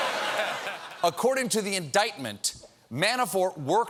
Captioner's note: laughter